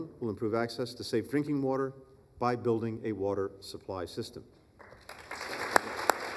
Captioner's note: applause